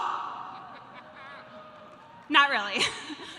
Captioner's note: audience laughing